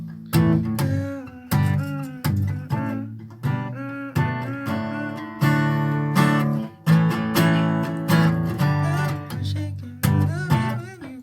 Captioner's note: humming once more